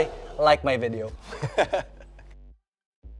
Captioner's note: laughs